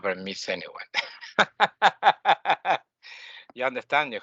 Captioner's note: laughing